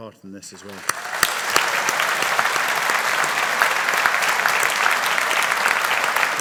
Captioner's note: audience cheering and applauding